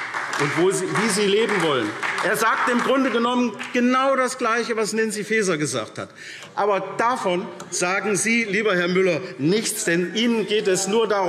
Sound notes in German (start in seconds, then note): 0.0 Beifall SPD